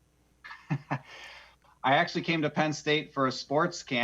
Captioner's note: laughs